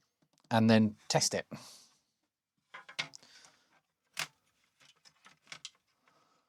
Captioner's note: blank Audio